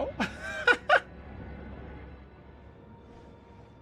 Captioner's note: laughs